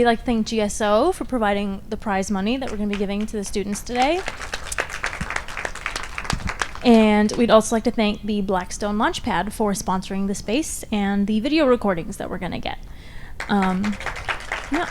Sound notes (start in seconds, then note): 5.1 audience applauds; 13.4 audience applauds